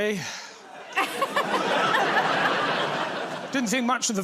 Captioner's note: laughter